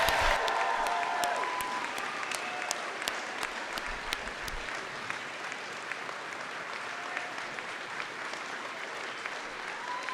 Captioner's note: cheers and applause